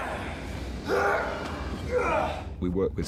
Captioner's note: grunting